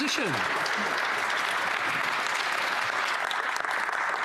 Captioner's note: applause